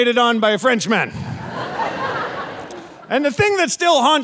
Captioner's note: audience laughing